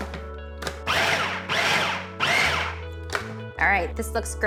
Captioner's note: food processor whirs